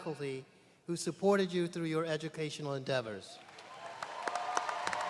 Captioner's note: applause